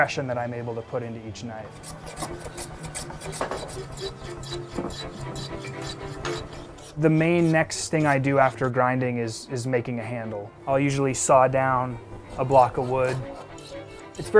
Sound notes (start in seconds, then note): 1.6 tool scraping on wood